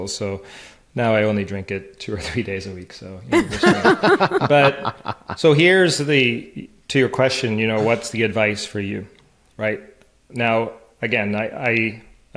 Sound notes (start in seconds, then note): 3.3 laughing